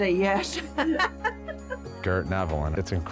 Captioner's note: both laughing